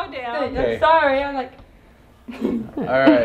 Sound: laughing

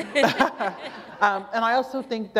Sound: laughter

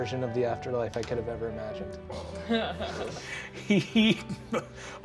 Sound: chuckling

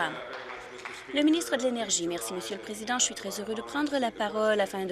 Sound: applause

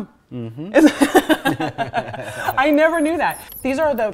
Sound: laughs

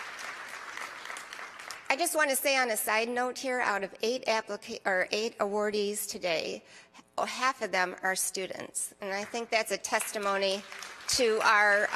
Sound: applause

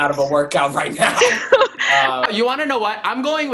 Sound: laughing

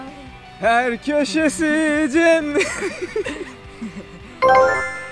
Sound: both laughs

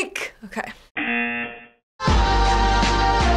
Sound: buzzer rings

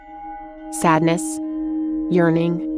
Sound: bells ringing

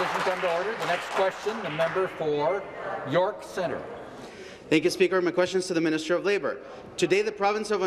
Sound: some Applause

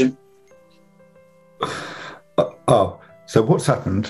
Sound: laughs

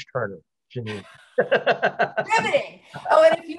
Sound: laughter

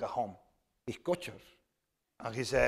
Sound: speaking spanish

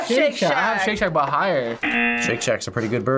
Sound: buzzer rings

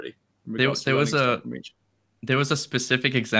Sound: overlapping chatter

